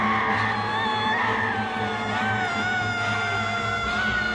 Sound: voices shrieking

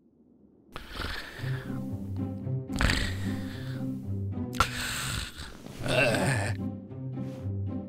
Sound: snoring

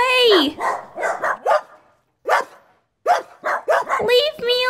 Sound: barking

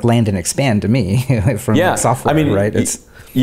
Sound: chuckling

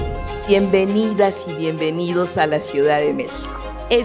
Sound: speaking Spanish

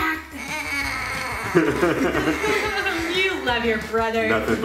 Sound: groans

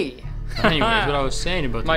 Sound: laughs

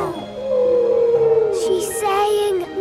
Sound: whale calling

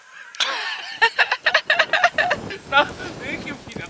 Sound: laughing. Laughing

